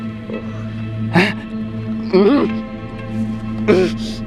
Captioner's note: grunting